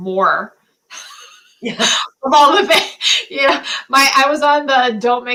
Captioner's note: laughter